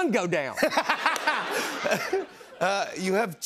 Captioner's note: laughter